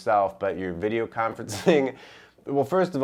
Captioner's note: laughs